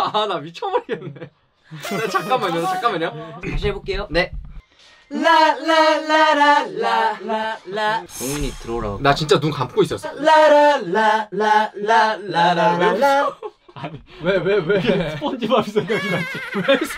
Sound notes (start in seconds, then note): 1.7 losing ability to control laugh; 12.8 laughing